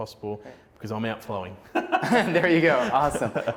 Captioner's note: laughing